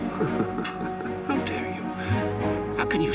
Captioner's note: Thomas laughing